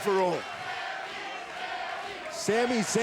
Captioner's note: crowd chanting